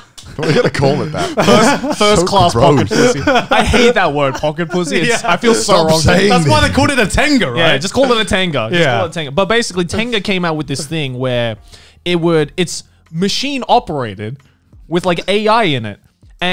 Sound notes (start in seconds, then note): 3.4 laughing